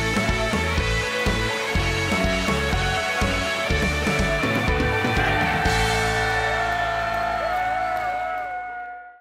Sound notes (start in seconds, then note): 2.4 crowd cheering; 6.9 cheering